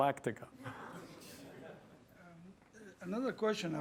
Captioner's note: laughter